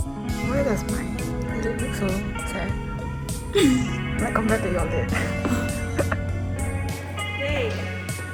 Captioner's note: cackling